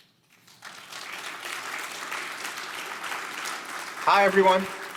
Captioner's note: audience applauding